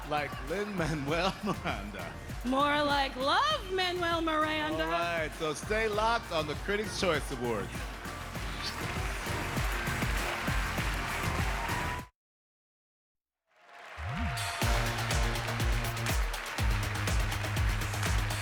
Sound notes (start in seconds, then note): 2.6 laughter